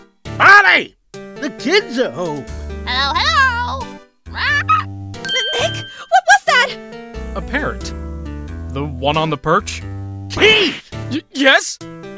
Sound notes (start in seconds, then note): 4.5 squawk